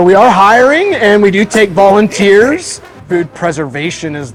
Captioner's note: voice drowns